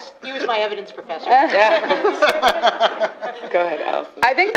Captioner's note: laughter